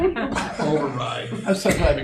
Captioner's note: laughter